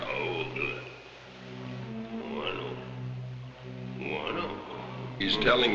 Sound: speaking in a foreign language

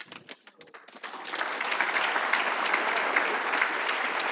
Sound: audience applauds

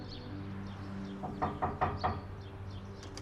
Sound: knocking on door

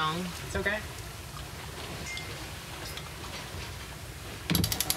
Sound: pulley ratcheting

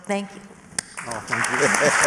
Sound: applause; laughter

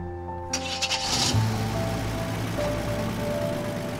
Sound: engine starts

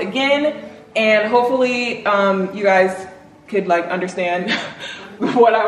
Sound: laughs

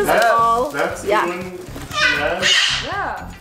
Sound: bird squawking loudly

